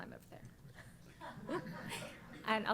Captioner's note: laughter